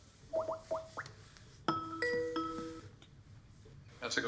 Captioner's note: Skype ringing